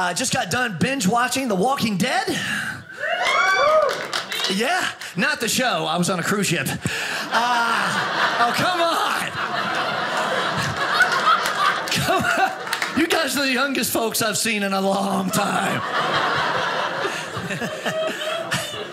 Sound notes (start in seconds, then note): 3.0 audience cheers; 10.1 audience laughing; 15.1 audience laughing